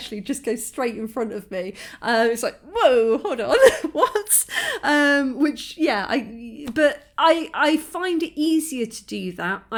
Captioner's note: laughing